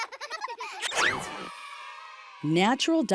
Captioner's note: children laughing; children cheering